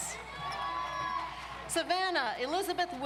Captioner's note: audience cheers